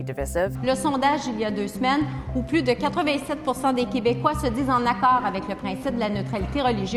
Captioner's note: speaks French